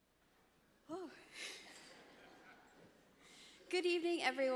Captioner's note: audience laughs